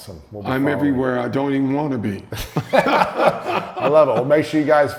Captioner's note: laughing